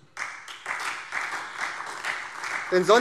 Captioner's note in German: Beifall SPD